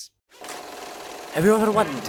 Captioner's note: projector sounds